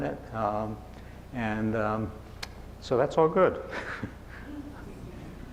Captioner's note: chuckling